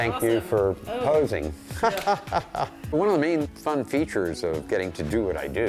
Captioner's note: laughs